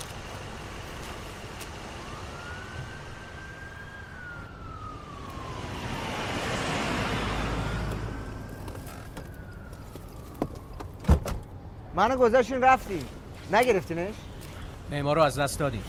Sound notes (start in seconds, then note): 1.9 siren; 10.4 car door opening